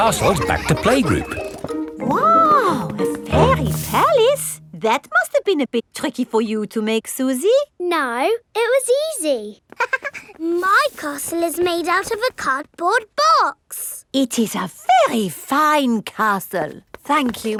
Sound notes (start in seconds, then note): 9.8 chuckles